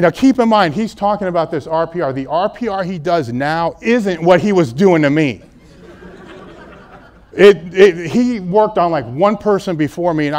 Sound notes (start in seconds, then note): 5.4 laughter